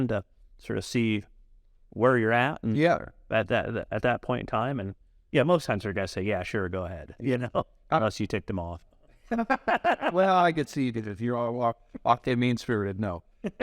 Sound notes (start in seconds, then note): 9.2 laugh